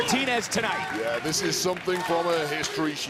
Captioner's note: crowd chanting